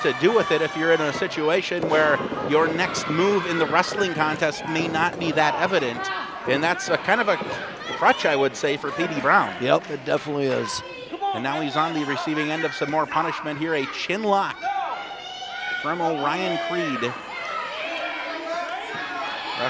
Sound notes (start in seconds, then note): 14.9 shouting; 16.9 crowd shouts